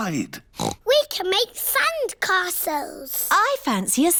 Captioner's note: oinks